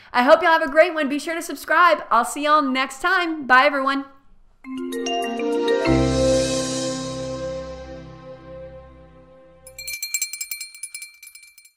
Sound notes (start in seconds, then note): 4.6 cheery music; 9.6 bell ringing